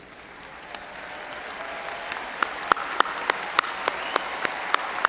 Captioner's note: audience applauding